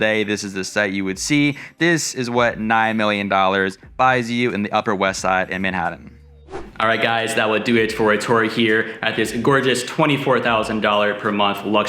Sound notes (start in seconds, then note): 6.2 air whooshes